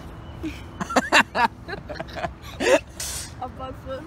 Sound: laughing

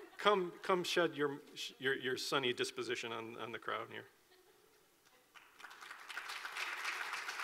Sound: clapping

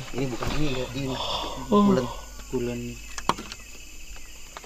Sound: yawns

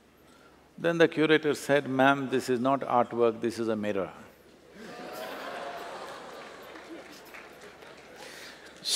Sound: laughter

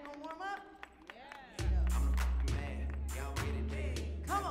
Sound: audience applauding

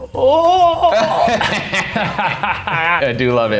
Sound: laughing

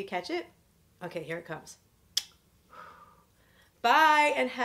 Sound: kisses

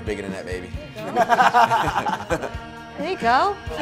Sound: laughing

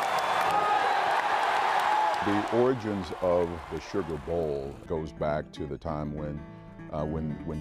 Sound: applae

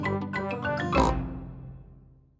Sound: snort

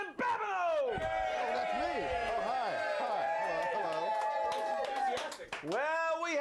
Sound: audience cheers

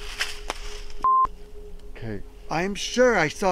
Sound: beep

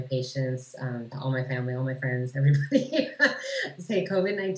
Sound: laughs

